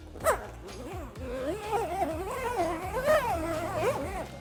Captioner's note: zipper sliding